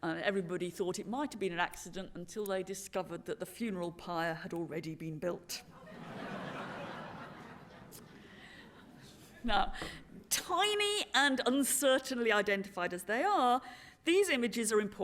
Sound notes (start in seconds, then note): 5.7 laughter